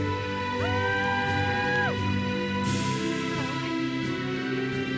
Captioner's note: audience cheers and applauds